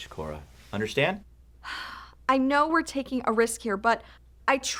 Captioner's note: sighs